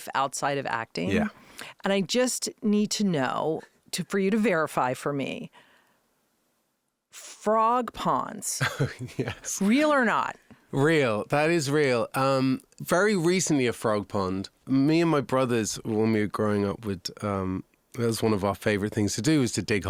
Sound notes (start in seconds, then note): 8.6 laughing